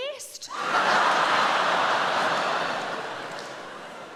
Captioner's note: audience laughing